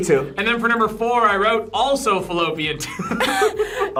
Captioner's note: laughs